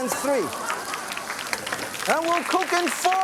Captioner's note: audience claps